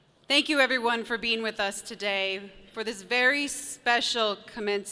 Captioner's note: none